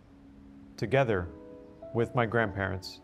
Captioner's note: none